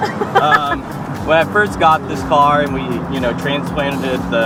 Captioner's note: laughs